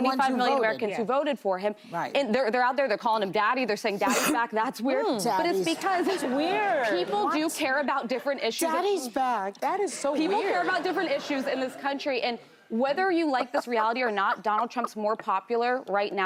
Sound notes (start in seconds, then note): 10.0 laughter